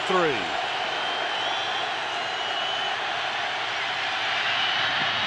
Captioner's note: crowd cheering